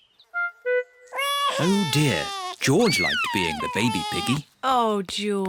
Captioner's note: bawls